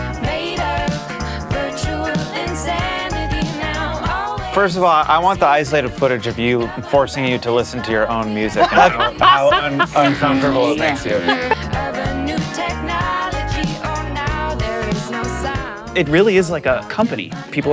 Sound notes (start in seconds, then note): 8.6 laughs